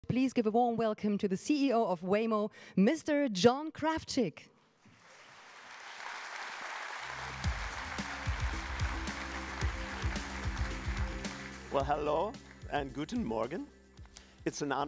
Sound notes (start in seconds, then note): 4.9 applause